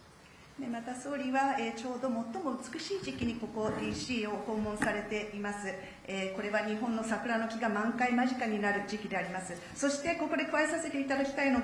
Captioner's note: speaking Japanese